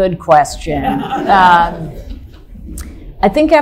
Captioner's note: audience laughing loudly